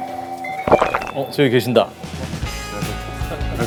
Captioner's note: gulp